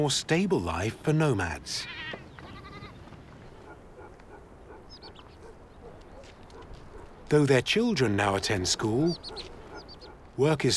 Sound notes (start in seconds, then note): 3.3 sheep bleating; 4.6 dog barking